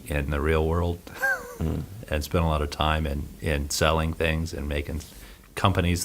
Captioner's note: he laughs